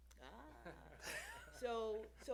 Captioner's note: laughter